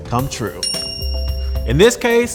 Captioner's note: bell rings